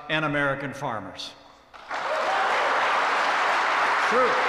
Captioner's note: applause